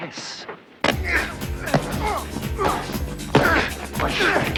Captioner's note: men grunting; upbeat action music